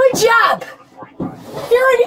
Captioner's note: radio chatter